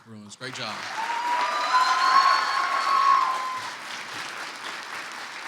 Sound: audience cheers

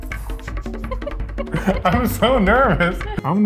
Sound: laughing

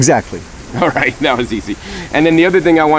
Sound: laughs

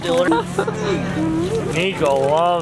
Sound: chuckles

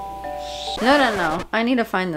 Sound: record scratches

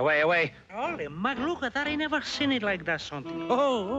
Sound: speaking in Spanish

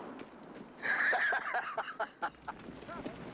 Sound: laughing

